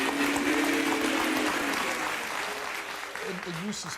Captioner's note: audience boos